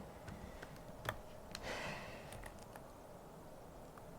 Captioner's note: sighs